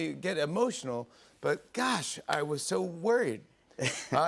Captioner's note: chuckles